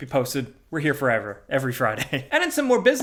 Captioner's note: chuckles